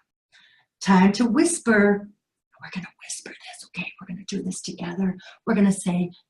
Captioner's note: whispering